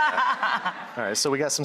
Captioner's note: laughing